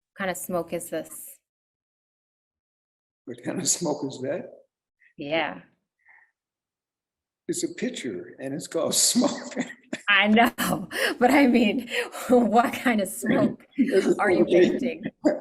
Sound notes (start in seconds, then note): 8.7 chuckles; 9.7 laughs